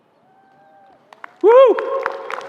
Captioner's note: applause